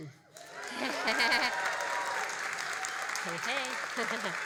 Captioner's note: all applauding and cheering